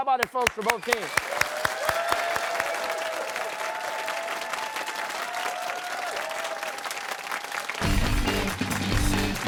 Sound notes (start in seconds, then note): 1.5 cheers and applause